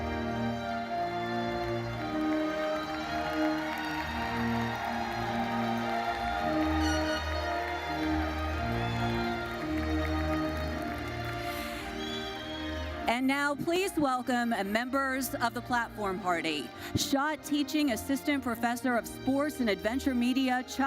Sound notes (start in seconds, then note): 4.0 audience cheers and applauds